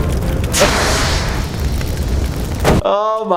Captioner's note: fire extinguisher wooshing